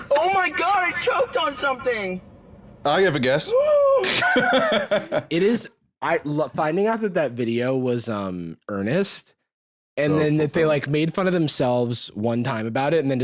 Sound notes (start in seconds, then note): 4.7 gasps